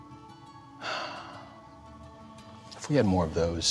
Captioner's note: sighs